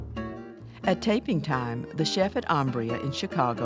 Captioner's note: voiceover